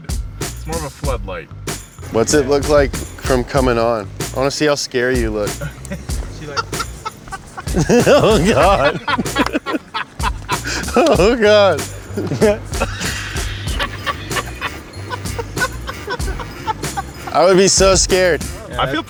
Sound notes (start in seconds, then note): 6.0 laughs; 7.9 laughing; 13.0 laughing